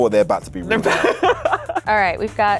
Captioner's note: laughs